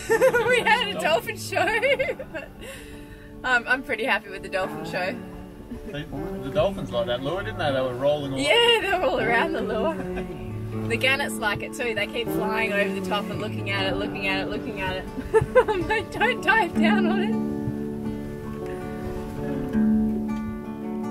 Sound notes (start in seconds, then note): 15.1 laughs; 17.6 relaxed acoustic music